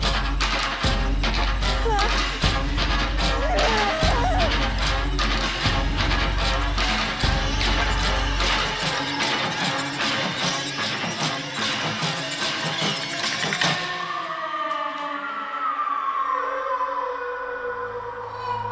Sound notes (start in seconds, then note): 3.6 Brigit shouting